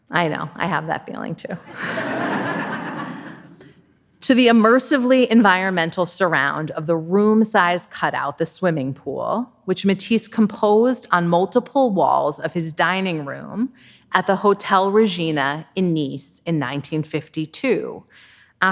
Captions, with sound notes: I know, I have that feeling too. (audience laughing) To the immersively environmental surround of the room-size cut-out "The Swimming Pool," which Matisse composed on multiple walls of his dining room at the Hotel Regina in Nice in 1952,